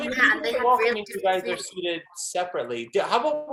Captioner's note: chatter